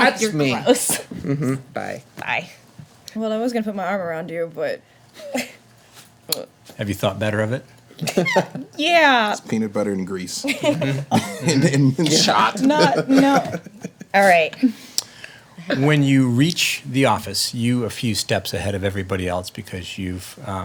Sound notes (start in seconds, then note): 7.9 chuckles; 10.4 laughing